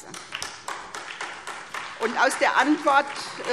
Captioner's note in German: Beifall SPD und vereinzelt DIE LINKE